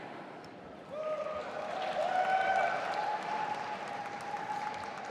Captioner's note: audience applauding